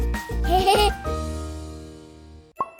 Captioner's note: laughter